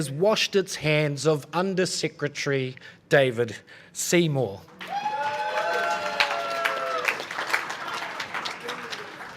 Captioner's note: cheering and applause